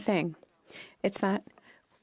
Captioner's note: speaking French